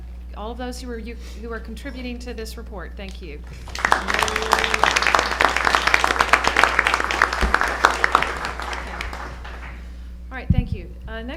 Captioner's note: applause